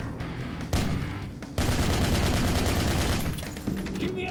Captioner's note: gunshots